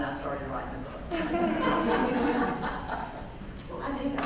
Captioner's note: laugh